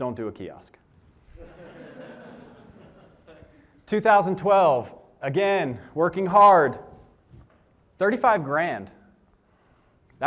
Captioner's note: laughter